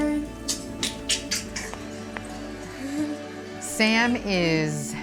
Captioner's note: clicking tongue